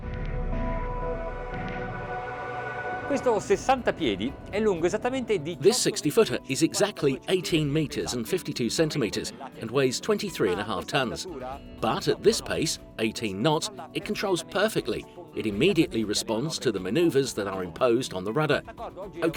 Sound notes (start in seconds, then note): 0.0 electronic music; 2.8 speaking foreign language